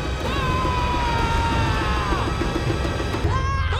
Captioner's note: Zuko screaming; both screaming